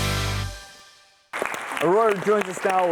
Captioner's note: audience applauds